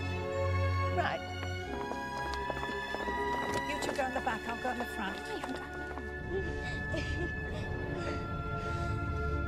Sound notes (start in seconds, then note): 1.1 footsteps clomping; 6.2 laughs